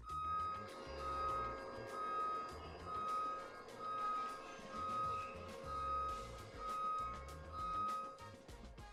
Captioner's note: desk machine whirring and beeping as it moves